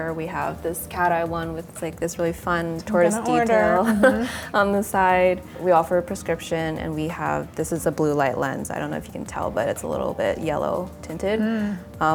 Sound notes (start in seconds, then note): 3.0 laughs